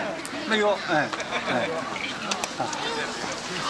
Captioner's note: non-english speech